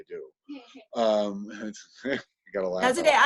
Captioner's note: someone laughs